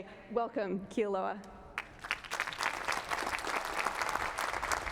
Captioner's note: applause